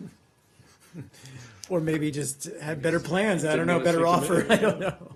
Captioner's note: laughter